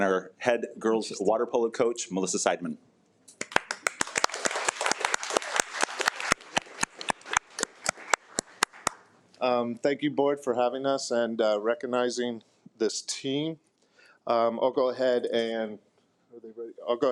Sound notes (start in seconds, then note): 3.4 attendees applaud